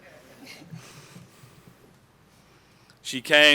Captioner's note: laughter